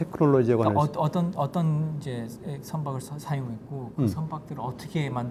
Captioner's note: speaking in Korean